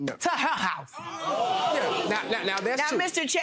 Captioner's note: audience gasping